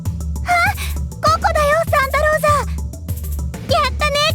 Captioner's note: gasp